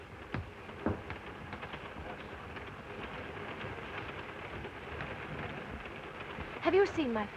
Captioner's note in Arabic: صوت خشخشة القطار